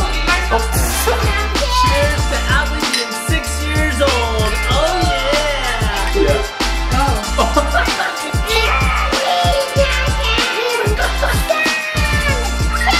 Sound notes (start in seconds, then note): 0.1 laughs; 4.5 glasses clink; 7.0 laughs